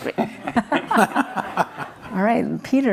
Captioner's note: audience laughs